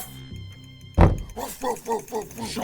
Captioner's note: thumping from upstairs